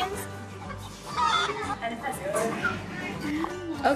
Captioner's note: bawk!